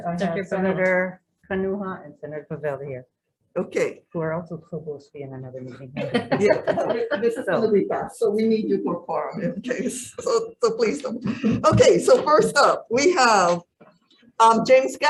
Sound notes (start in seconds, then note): 5.9 laughs